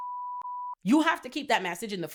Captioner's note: beep